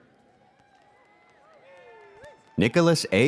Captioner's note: audience cheers